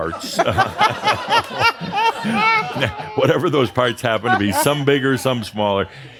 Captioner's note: laughter